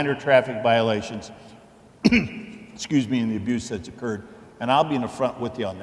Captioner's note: coughs